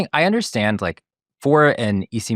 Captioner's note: none